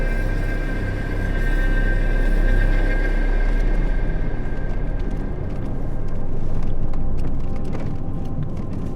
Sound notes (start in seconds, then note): 4.9 pebbles churning